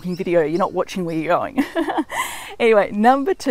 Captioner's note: laughing